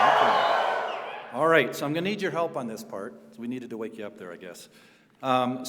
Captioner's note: cheering